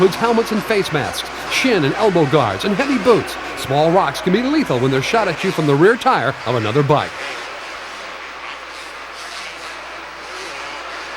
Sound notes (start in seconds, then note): 7.9 engines whine